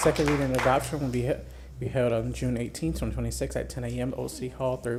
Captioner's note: applause